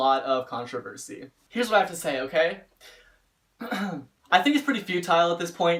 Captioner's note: clears throat